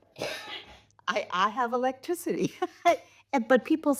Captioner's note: chuckles